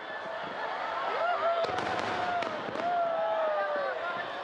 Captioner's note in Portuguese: Pessoas celebrando